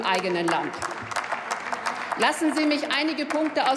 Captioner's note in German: Applaus